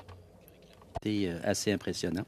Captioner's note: speaking French